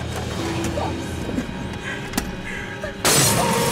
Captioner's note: gasping